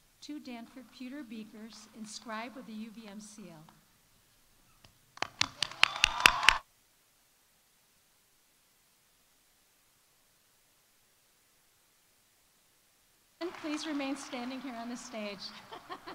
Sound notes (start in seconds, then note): 5.2 audience applauding; 5.4 audience cheering; 15.1 laughs; 15.9 audience laughs